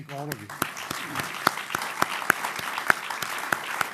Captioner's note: applause